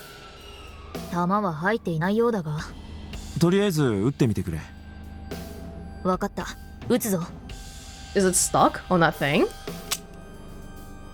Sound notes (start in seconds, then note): none